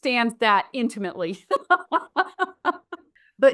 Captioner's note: laughs